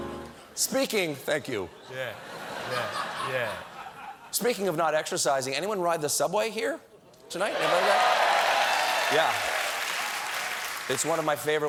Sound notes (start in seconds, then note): 7.5 cheers and applause